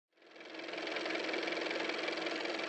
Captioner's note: car motor